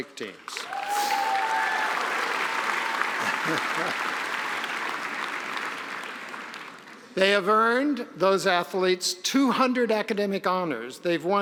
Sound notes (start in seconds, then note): 0.4 audience applause; 0.5 cheering